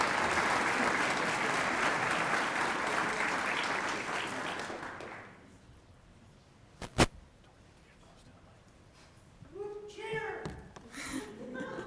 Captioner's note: applause